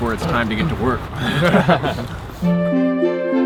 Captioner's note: all laughing